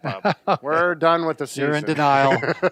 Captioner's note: laughs